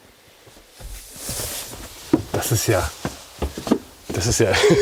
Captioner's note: laughs